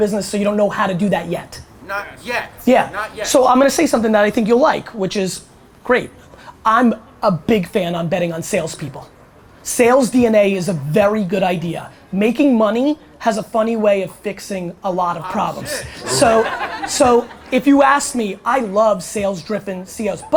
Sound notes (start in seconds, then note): 15.4 audience laughter